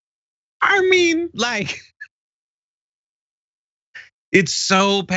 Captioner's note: laugh